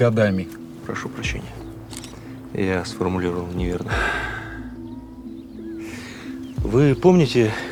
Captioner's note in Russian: щелчок фотоаппарата